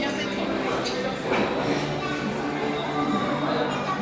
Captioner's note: conversations and background music